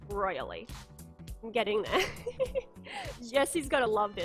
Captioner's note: giggles